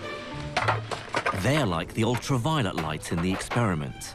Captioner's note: voiceover